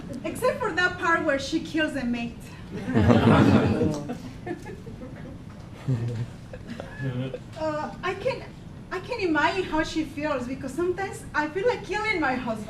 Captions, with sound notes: except for that part where she kills a mate (laughing) I can imagine how she feels because sometimes I feel like killing my husband.